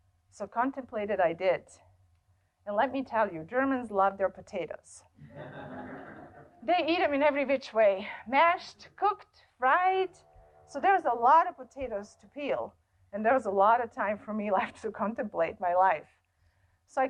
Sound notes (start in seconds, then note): 5.2 laughter